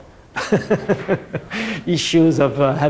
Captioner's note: laughs